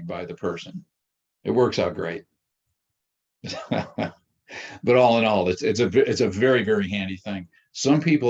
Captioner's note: laughs